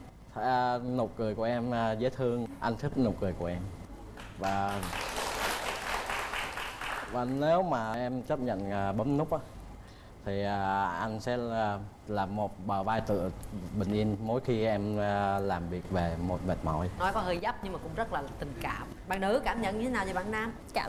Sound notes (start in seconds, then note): 4.1 applause